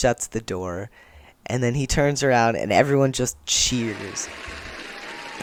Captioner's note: applause